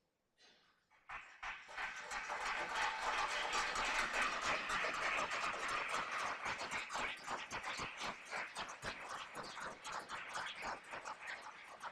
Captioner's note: applause